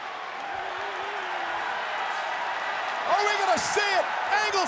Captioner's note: applause